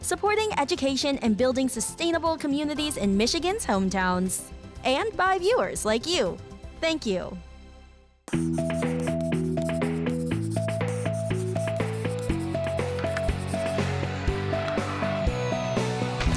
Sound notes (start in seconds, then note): 8.3 upbeat music; 8.4 pencil writing